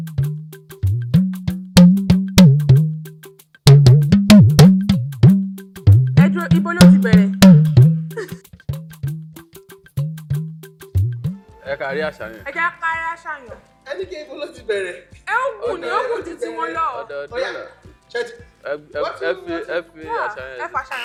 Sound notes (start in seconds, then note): 0.1 drum beats; 8.0 host laughs